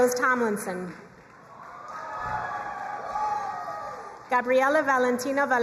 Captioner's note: crowd cheering and applauding